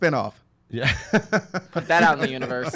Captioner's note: laughs